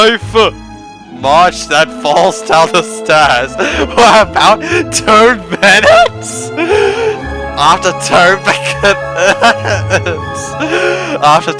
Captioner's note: still cackling like crazy